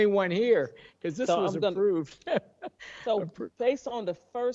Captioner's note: laughs